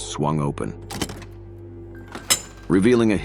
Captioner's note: door opens